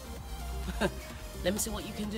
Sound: laugh

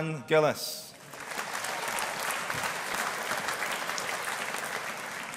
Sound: audience applauding

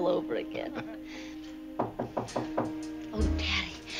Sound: knock

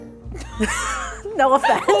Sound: laughing

